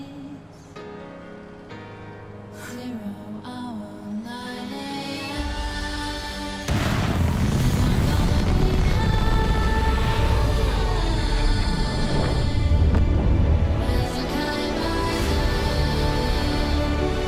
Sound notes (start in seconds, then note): 6.7 ship thrusters